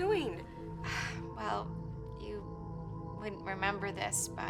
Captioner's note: sighs